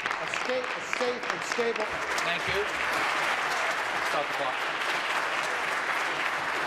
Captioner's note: applause